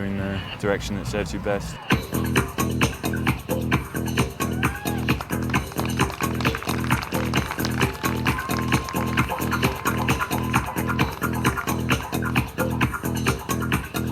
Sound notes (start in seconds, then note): 2.2 upbeat music; 5.8 audience cheering and applauding; 10.6 upbeat music continues